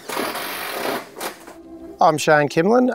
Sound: machinery clicking

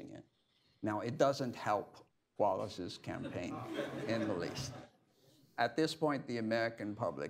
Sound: laughter

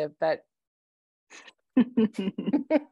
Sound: laughter

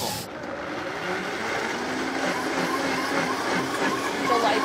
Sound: blender roars

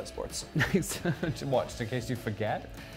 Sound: laughs

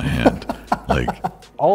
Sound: laughs

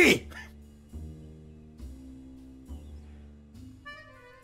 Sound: laughs

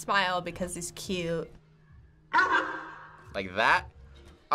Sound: sea lion barks

